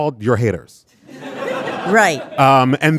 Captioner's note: audience laughing